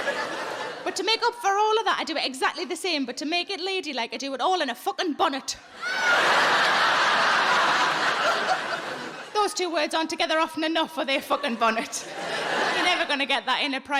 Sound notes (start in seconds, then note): 5.8 audience laughing